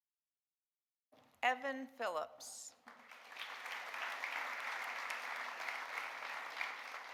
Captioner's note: audience applauding